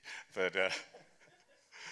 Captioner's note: chuckles